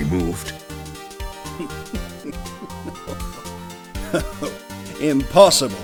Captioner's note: chuckling